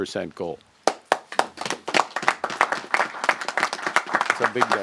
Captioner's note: applause